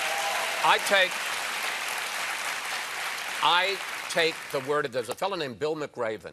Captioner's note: applause